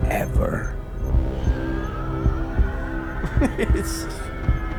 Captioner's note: sound of wind; laughs